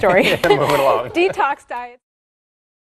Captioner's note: laughs